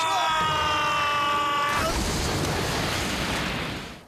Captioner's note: both screaming; splash